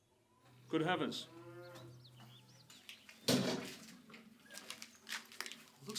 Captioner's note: cow mooing